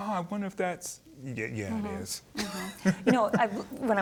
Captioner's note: chuckling